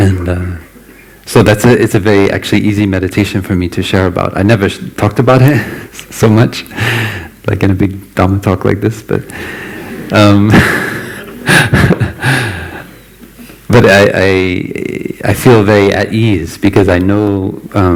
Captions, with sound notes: So that is a very actually easy meditation for me to share about, I never talked about it so much, like in a big Dharma talk like this, but... (Laughter) But I feel very at ease, because I know,